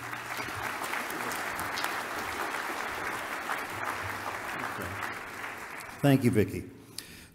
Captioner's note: audience applause